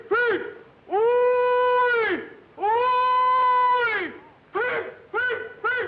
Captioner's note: hollering